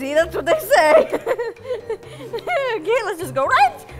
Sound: adorable amused giggle

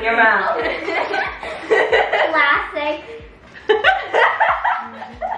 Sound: everyone laughing

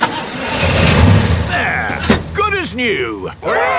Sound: engine starts

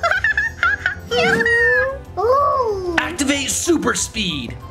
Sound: monkeys screeching

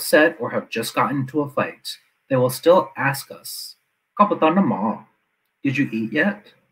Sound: non-English speech

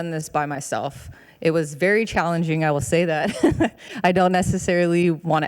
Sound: chuckles

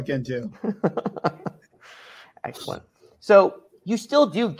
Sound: chuckles

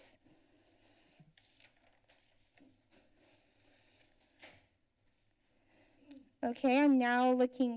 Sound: silence

